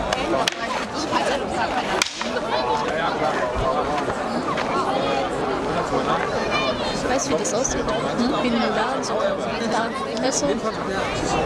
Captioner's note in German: Kampfgeräusche